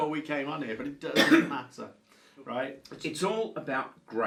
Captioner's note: coughs